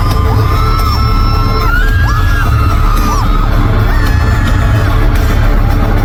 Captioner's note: scream from the inner devil